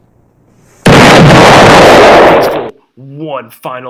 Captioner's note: boom